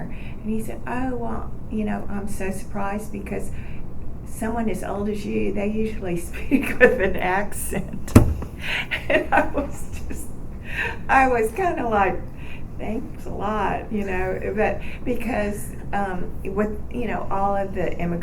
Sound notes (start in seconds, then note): 6.2 laughing; 11.0 sarcastically